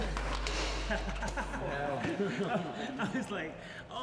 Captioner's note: laughing